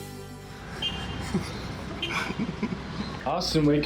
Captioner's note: car horn beeping